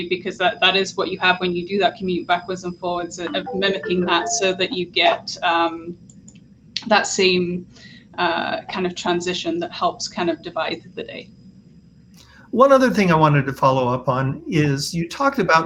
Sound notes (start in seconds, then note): 5.8 call ringtone